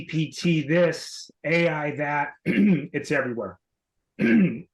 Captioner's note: clears throat